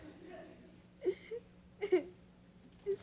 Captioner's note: crying